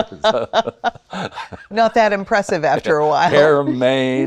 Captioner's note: laughs